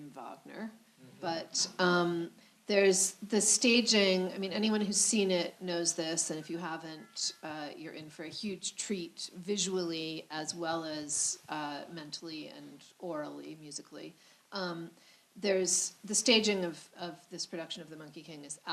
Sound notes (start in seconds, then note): none